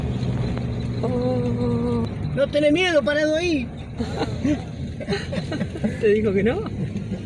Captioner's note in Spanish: risas